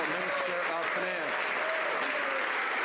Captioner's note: some Applause